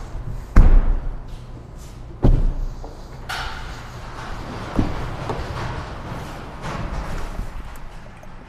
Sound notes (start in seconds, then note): 3.2 metal clanging